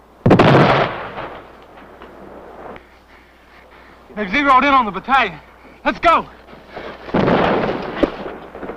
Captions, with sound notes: [explosion] - They've zeroed in on the battalion. Let's go! [explosion]